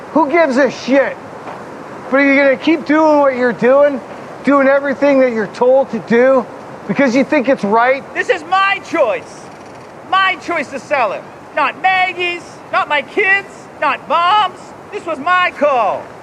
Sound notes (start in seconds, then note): none